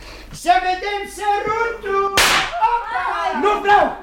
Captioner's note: sound of firecrackers